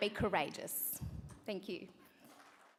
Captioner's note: applause